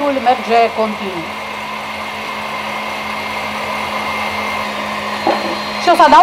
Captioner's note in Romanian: sunetul mixerului